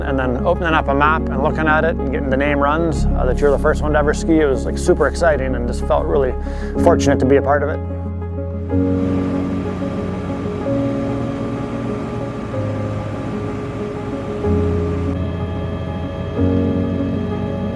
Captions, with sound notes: and then opening up a map and looking at it and getting the name runs that you're the first one to ever ski it, it was like super exciting and just felt really fortunate to be a part of it. (helicopter humming)